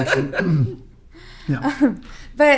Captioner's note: laughing